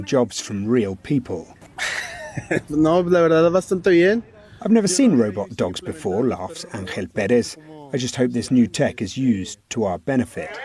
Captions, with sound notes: jobs from real people." [laughs] "I've never seen robot dogs before," laughs Angel Perez. "I just hope this new tech is used to our benefit."